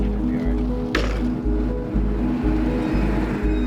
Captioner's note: ramp clangs; dramatic music